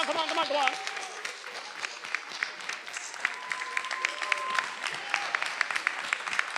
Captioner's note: attendees applauding and cheering